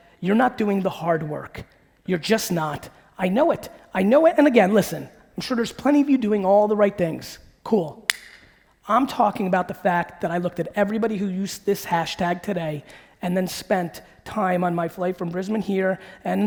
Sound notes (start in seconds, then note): 8.1 clapping